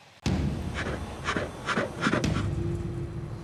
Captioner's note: bear huffing; tense music continues